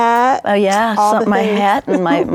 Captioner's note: chuckles